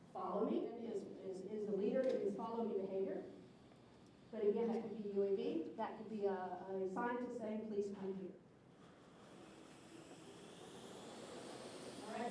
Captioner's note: whirring of rotors